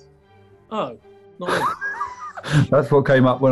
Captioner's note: sniggering